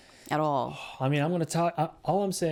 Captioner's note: sighs